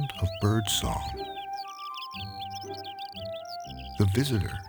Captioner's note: bird singing; gentle orchestral music